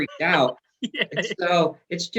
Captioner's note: laughs